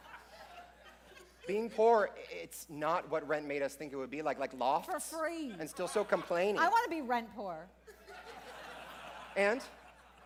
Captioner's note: laughter